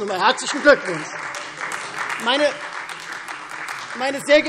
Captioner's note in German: Beifall Freie Demokraten